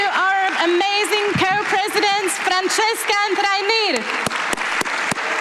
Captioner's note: applause